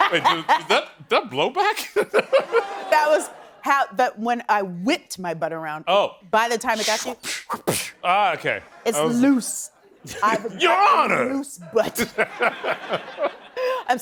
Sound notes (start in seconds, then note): 2.2 laughing; 6.7 making smacking sound effects; 11.7 laughing